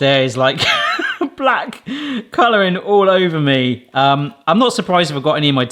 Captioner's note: laughing